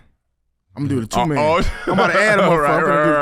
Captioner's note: laughs